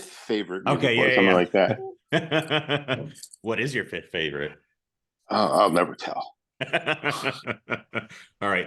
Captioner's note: polite laughs